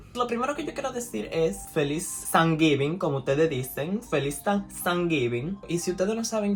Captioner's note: hispanic accent